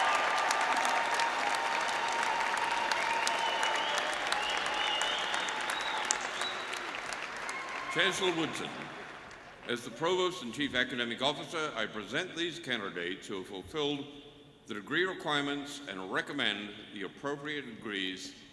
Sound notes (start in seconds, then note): 7.0 cheering and applause